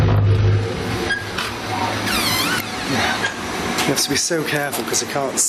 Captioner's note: door creaking